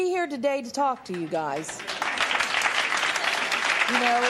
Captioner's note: applause